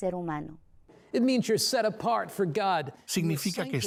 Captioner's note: Hablando idioma extranjero